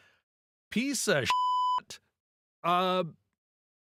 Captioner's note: beep